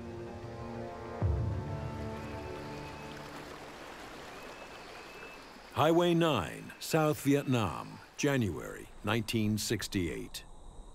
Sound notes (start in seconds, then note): 2.9 water flowing